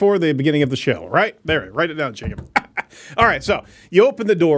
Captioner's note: laughs